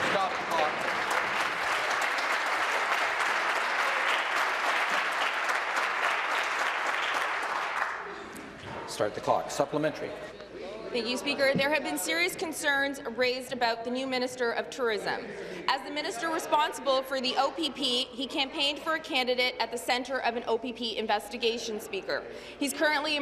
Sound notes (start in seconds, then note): 2.6 applause